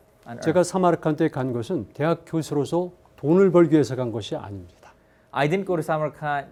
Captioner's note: speaking in Korean